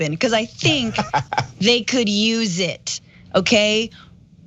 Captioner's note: laugh